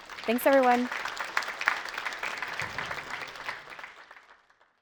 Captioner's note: audience applauding